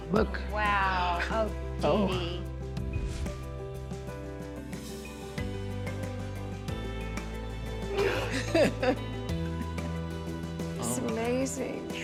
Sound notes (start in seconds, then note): 2.3 bright music; 8.0 laughs